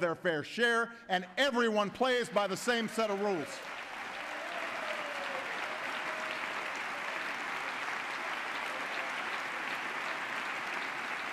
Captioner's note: applause